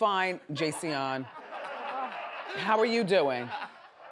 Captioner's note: audience laughs